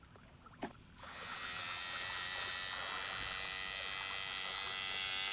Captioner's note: airplane humming